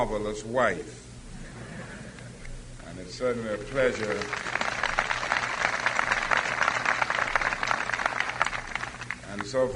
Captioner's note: applause